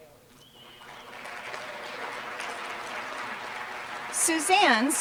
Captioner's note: applause